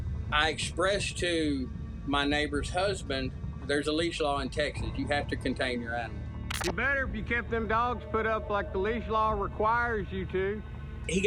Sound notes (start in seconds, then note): none